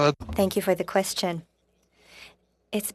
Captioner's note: speaking French